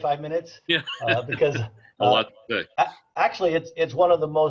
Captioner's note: laughs